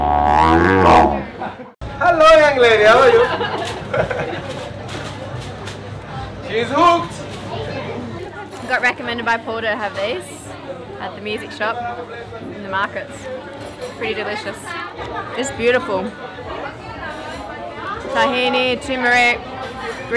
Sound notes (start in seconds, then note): 3.2 chuckles; 3.3 paper rattles